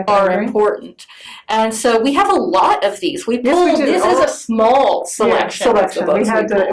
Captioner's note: laughs